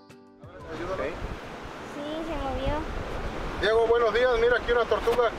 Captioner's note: men speaking in foreign language